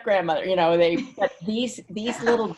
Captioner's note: woman laughs